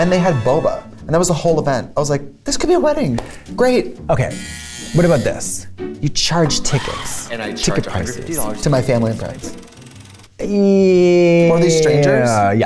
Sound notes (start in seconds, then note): 4.3 buzzer